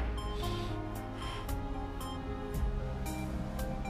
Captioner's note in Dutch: snuivend